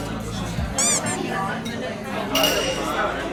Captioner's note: laughing while chewing the meat he barely ate